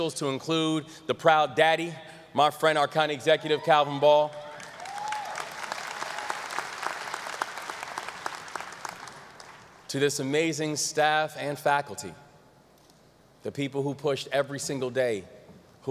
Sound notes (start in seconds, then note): 4.5 audience applause